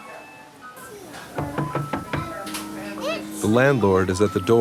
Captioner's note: knocking at the door